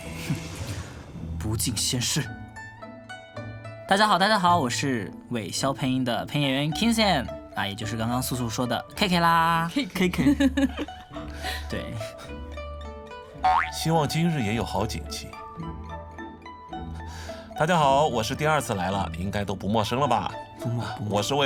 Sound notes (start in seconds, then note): 10.2 giggling